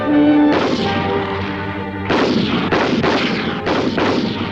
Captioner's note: gunshots